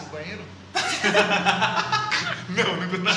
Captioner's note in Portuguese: Risadas